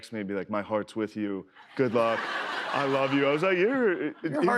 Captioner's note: laughter